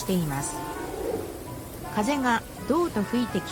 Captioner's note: sound of wind and leaves